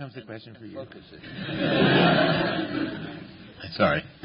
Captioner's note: laughter